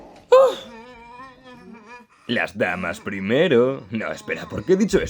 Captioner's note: Gloink Queen groaning